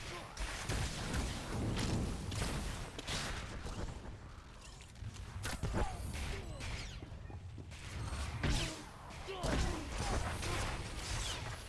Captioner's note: gunshots